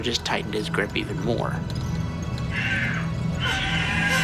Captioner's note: Andrew screaming